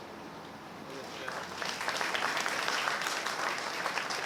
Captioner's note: applause